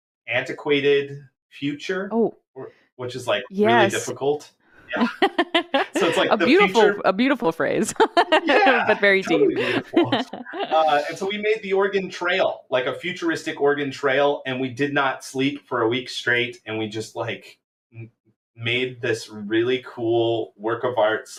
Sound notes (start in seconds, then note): 4.9 laughter